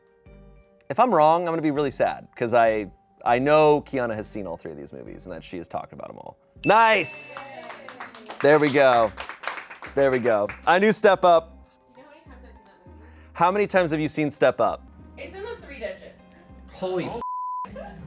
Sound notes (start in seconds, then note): 6.6 bell dings; 6.6 audience cheering; 6.6 audience applauding; 17.2 beep